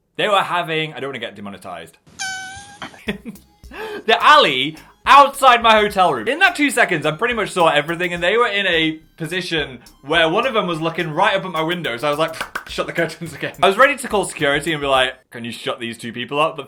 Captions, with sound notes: They were having, I don't wanna get demonetized, (turtle squealing) (laughs) in the alley outside my hotel room. In that two seconds, I pretty much saw everything, and they were in a position where one of 'em was looking right up at my windows. I was like, (claps hands) shut the curtains again. I was ready to call security and be like, "Can you shut these two people up?"